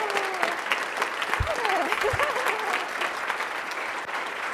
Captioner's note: laughing